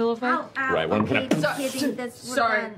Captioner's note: impact noise